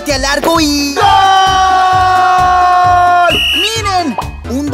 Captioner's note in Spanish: Sonido de silbato